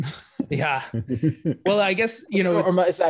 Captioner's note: laughs